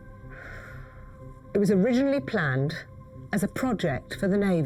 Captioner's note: sighs